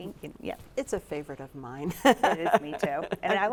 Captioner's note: chuckles